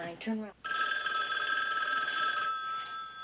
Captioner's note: phone ringing